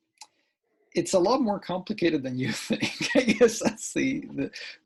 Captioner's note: laughs